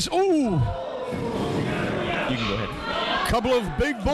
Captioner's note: crowd murmuring